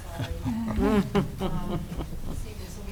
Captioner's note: board members laughing